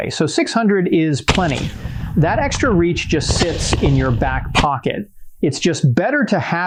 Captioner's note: gunshots